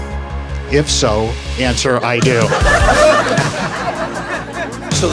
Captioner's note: laughing